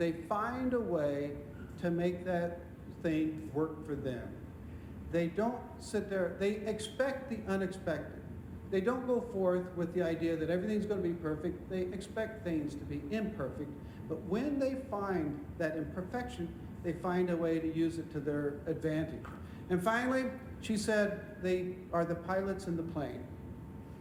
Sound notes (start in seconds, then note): none